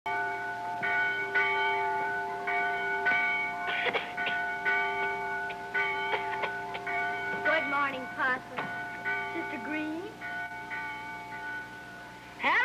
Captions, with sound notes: (bell ringing) (Parson coughing) - Good morning, Parson. - Sister Green.